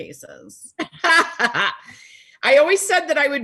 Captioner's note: laughing